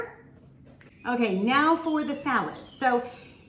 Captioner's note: birds chirping